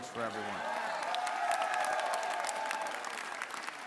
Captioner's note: applause